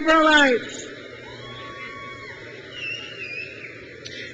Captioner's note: crowd cheers